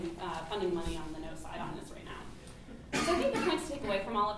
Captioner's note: cough